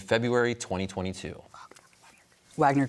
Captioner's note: team whispering